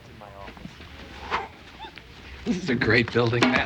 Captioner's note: chortles